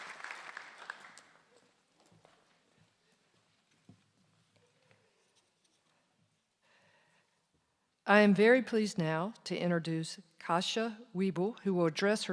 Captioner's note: applause